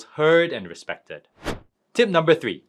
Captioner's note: transition whooshing